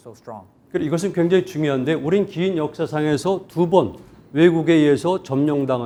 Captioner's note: speaking in Korean